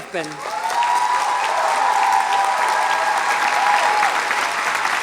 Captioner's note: audience applauds and cheers